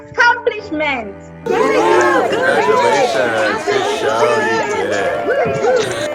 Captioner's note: cheering